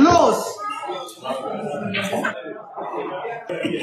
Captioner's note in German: Stimmengewirr